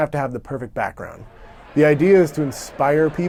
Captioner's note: crowd chatter